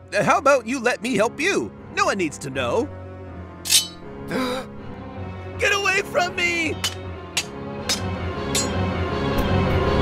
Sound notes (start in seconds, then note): 4.3 Chris gasps; 7.1 ominous music